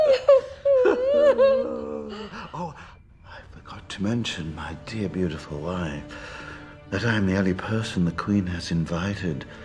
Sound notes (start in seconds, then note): 2.0 laughter